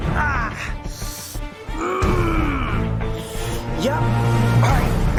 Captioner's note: Coyote groaning